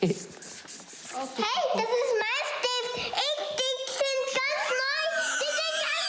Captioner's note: speaking foreign language